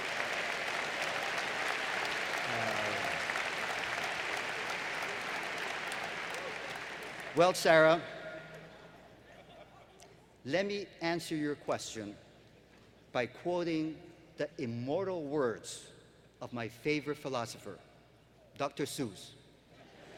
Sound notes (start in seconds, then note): 0.0 applause; 19.7 laughter